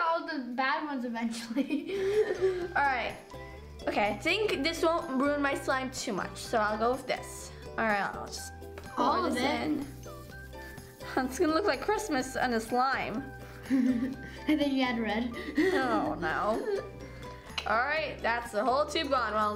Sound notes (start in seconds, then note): 13.6 giggle; 13.7 giggling